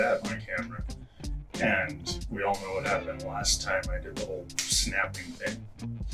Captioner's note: finger snap